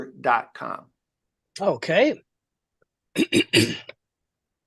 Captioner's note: clears throat